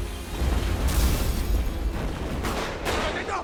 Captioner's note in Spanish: Explosión; Disparos